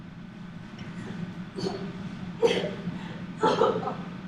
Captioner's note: coughing